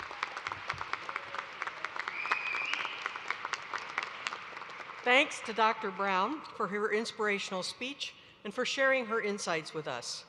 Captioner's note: applause